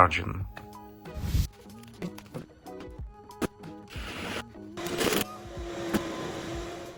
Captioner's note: upbeat music; drill humming